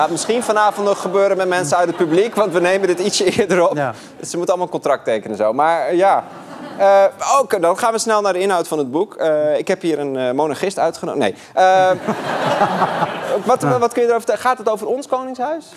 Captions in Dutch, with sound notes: Dat gaat misschien vanavond gebeuren met mensen uit het publiek... want we nemen het ietsjes eerder op. Ze moeten een contract tekenen zo. Dan gaan we snel naar de inhoud van het boek. Ik heb een monarchist uitgen... Nee. (gelach) Gaat het over ons koningshuis?